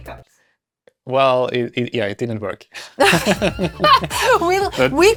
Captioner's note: laughs